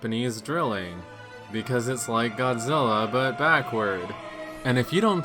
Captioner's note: exasperated